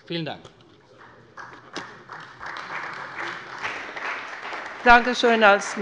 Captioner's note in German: Beifall bei der CDU und dem BÜNDNIS 90/DIE GRÜNEN